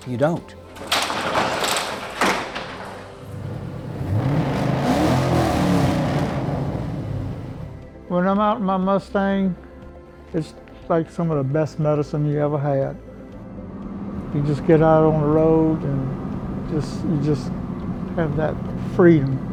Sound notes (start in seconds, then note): 0.6 garage door banging; 3.2 car motor revving